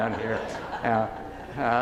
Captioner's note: laughing